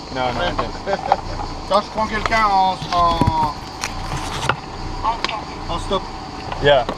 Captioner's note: speaking in foreign language